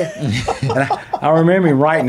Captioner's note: laughing